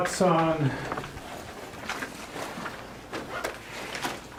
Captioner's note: rustling